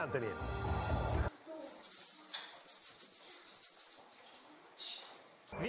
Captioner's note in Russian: звук колокольчика